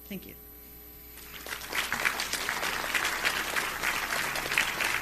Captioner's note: audience applause